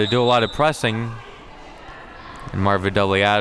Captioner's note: whistle blows